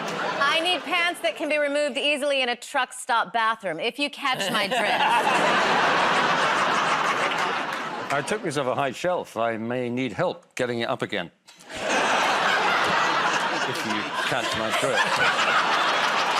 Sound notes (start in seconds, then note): 0.0 laughter; 4.4 laughter; 11.6 laughter